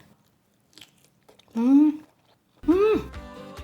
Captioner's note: crunching